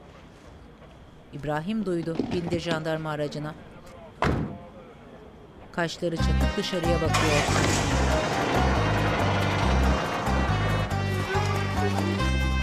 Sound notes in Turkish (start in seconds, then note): 4.2 Kapı kapanma sesi